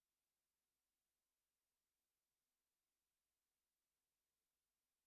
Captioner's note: none